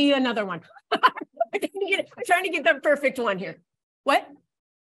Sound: laughs

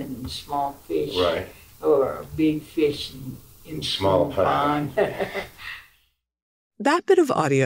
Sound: laughter

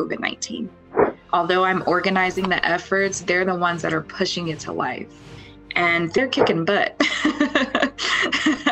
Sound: laughs

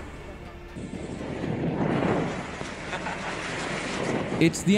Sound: locals speaking Portuguese; fire roaring

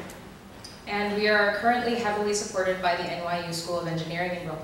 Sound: voiceover

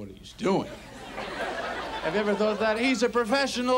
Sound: audience laughs

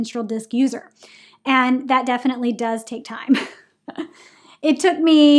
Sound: laughs

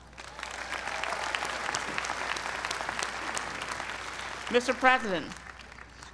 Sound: applause

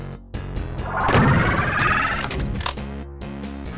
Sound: Arch-vile noise

